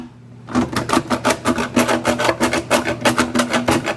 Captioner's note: drilling